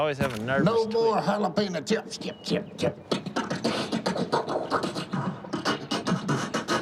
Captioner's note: beatboxes